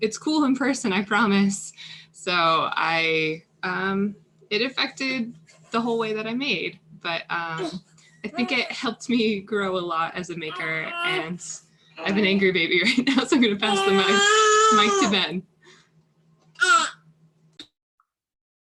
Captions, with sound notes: "It's cool in person, I promise." So it affected the whole way that I made but I think it helped me grow a lot as a maker. And I've angered baby right now. (baby crying) So I'm gonna pass the mike to Ben.